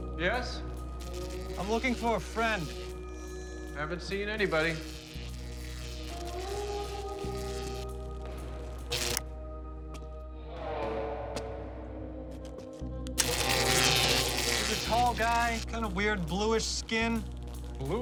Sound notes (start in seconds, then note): 4.7 zapping continues; 13.1 zapping